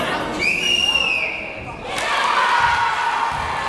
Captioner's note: whistling; cheering